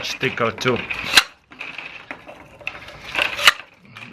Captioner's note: weaving plastic